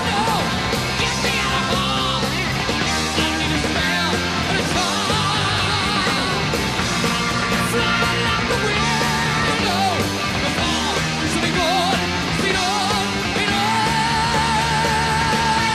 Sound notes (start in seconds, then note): none